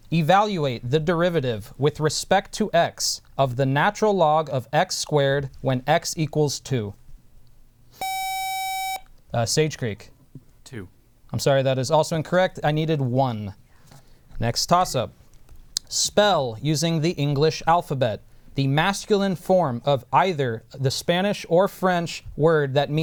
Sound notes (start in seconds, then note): 8.0 buzzer